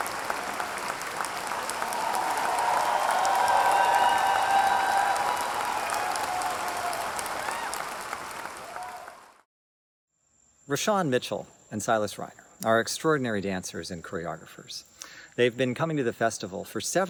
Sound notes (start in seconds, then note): 4.0 audience cheering